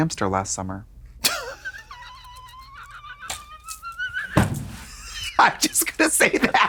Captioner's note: Katya rattles and slaps